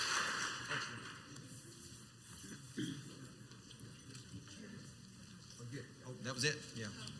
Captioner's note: male announcer speaks quietly, not into the microphone